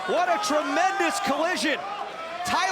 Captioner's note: crowd chatter